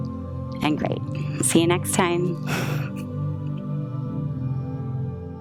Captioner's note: chuckles